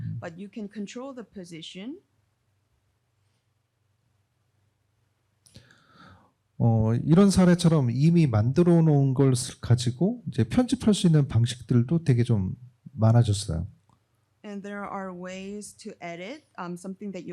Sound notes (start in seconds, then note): 6.6 speaking korean